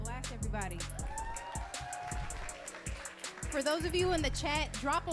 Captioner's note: audience clapping and cheering